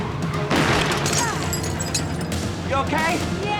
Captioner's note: gunshot blasting; glass shattering